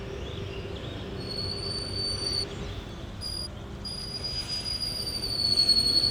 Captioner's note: high pitched squeaking